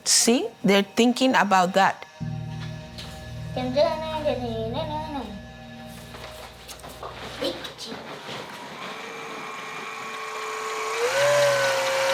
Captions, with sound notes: See, they're thinking about that. (child speaking in Spanish) (mixer whirring)